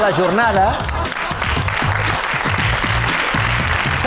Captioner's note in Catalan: rialles i aplaudiments